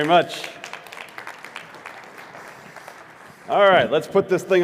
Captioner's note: audience applauds